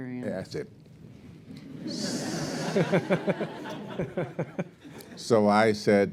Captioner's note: laughter